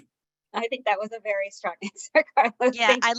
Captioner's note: laughing